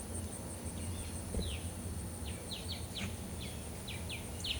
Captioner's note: birds chirping